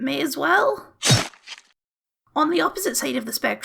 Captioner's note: chop noise